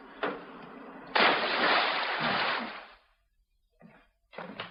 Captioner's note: splash